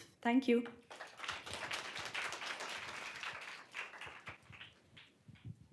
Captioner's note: applause